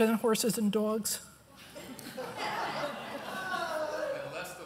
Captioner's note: chuckles